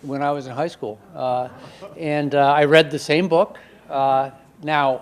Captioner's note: audience laughing